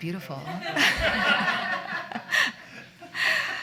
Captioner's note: laughter